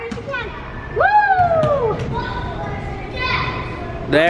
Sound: cheering

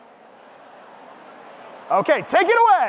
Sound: audience speaking indistinctly

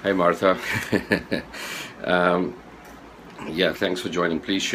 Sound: laughing

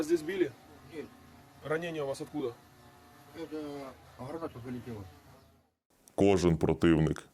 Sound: interrogating a POW in Russian

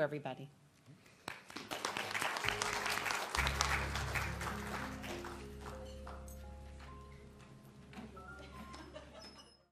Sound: applause

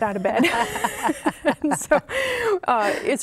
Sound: laughing

